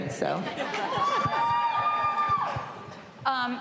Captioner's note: cheering